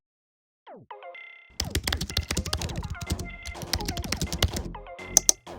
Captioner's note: keyboard clicks